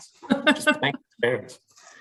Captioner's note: woman laughing